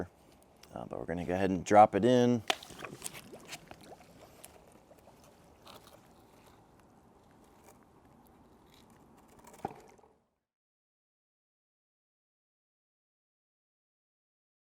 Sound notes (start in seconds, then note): 2.5 pool draining